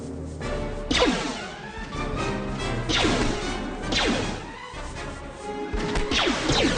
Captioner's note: gunshots; upbeat music